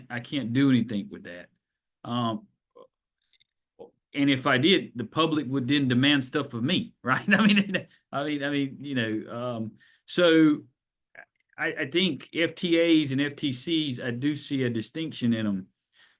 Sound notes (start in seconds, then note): 8.1 laughs